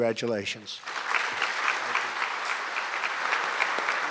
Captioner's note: applause